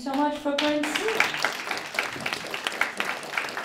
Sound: applause

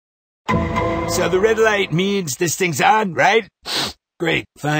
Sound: sniff

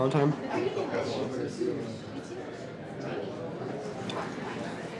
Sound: people chattering

